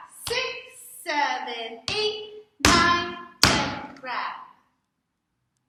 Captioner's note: clap; stomp